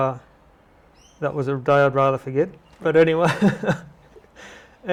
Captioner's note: laugh